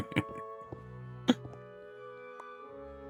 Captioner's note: laughs